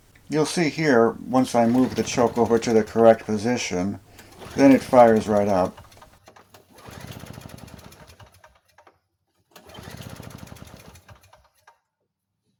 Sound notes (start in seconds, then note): 6.5 engine cranking sounds; 9.5 engine cranking sounds